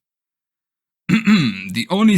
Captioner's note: clear voice